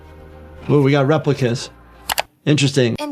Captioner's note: dramatic music; screen clicking